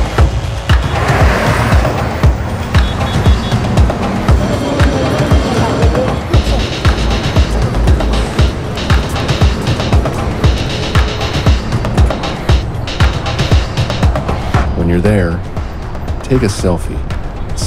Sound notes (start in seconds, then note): 0.2 traffic noises; 3.5 car beeps